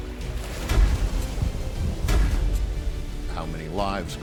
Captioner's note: guns firing